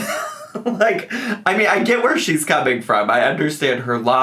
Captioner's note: laughs